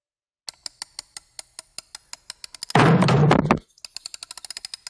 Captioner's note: wardrobe Door creaking